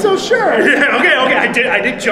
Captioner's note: laughter